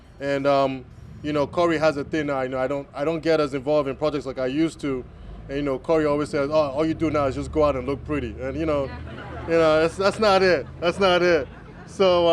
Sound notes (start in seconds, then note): 8.9 laughter